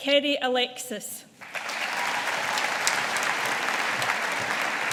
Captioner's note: audience applauding